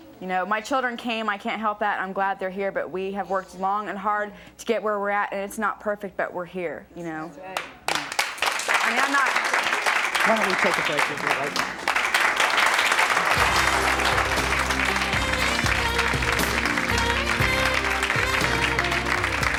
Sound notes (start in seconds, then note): 7.1 audience clapping; 13.1 theme music